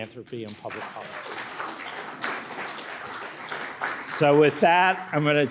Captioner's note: audience clapping